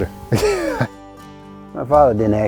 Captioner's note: man laughs